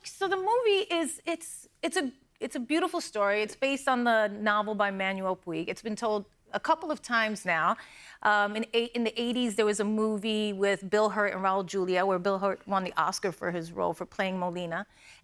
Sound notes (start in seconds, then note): none